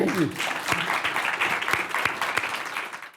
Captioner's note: all clapping